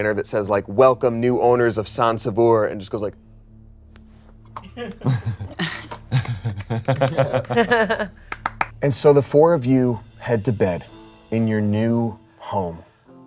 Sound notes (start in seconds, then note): 4.6 everyone laughs